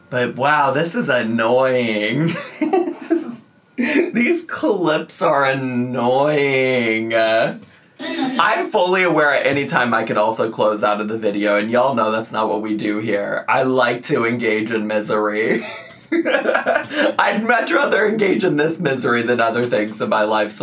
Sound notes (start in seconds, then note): 2.2 laughs; 15.6 laughs